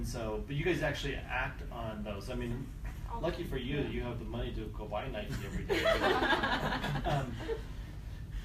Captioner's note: laughter